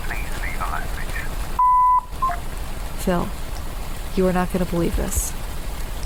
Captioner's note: beep of message. Hangs up phone